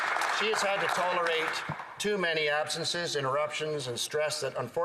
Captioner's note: applause